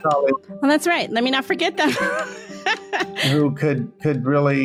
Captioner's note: laughs